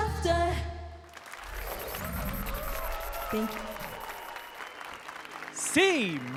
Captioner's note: applause and cheers